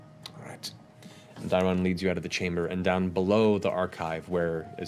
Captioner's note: none